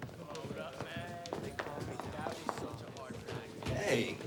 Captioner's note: students chattering